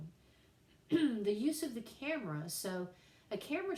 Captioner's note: cough